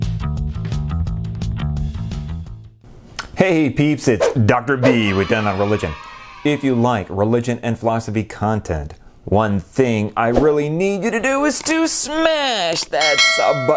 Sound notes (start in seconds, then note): 4.8 kids cheering; 13.0 bell ringing